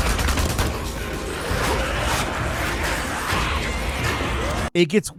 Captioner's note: gun shots sounding; zombies vocalizing